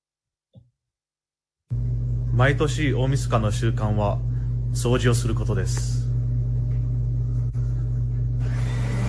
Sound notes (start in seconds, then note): 2.4 speaking foreign language